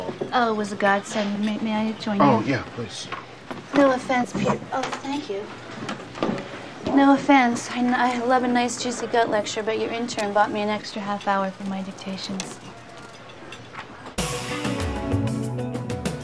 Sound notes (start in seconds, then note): none